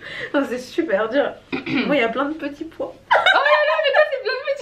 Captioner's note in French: rires